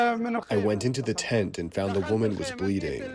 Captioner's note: through translator